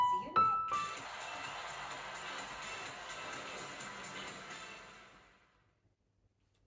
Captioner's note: sound from TV